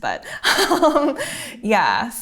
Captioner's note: laughing